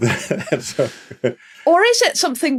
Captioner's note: laughs heartily; laughs